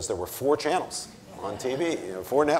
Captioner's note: audience laughing